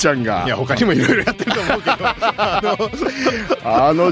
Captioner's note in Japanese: 笑い